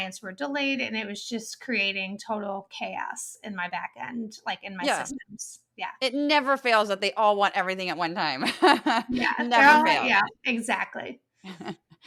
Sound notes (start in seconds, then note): 8.6 laugh